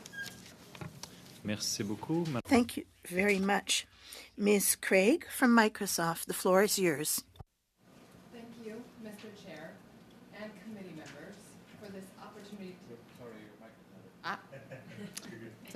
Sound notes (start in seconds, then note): 7.2 speaking French